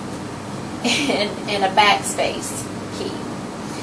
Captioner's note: laughing